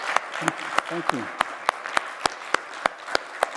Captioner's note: applause